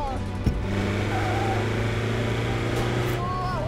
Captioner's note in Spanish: Motor acelerando